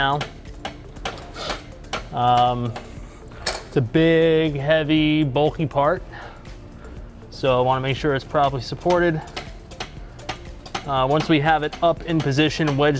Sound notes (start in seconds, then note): 0.6 tool thumping; 8.8 tool thumping